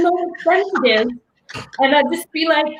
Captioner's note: laughing